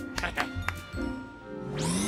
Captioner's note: chuckles